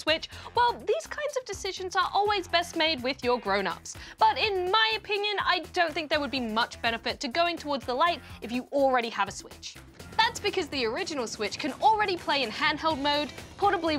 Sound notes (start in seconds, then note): none